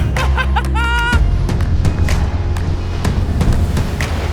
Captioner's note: upbeat electronic music; man whooping